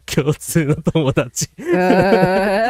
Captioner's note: laughter